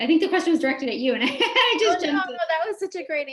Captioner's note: chuckles